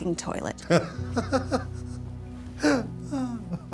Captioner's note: laughs